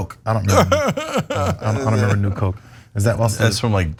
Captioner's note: laugh